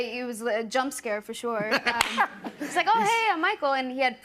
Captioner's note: laughter